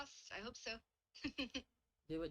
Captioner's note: laughs